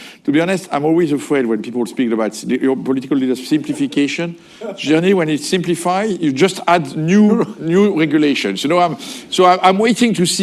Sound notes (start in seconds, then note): 4.8 laughter